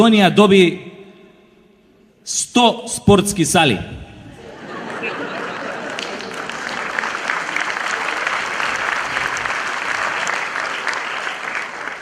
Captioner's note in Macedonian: аплауз